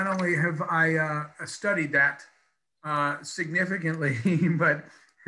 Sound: laughs

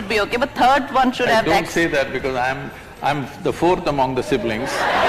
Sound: laughter/Applause

